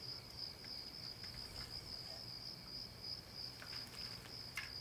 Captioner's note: crickets chirping